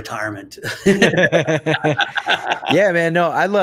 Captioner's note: both laugh